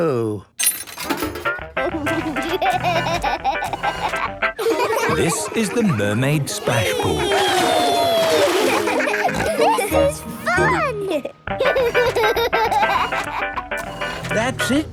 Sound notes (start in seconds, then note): 1.6 upbeat music; 4.5 giggling; 9.6 giggles, snorts; 11.5 giggling; 13.7 music fades